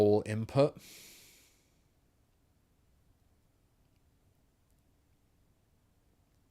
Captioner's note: silence